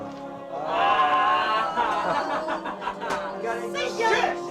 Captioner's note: group laughs